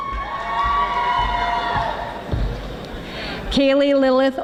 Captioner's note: audience applauding